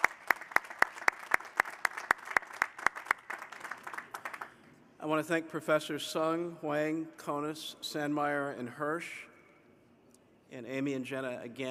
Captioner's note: cheers and applause